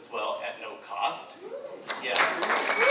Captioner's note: audience applauds